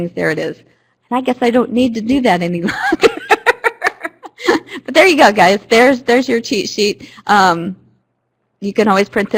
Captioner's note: laughter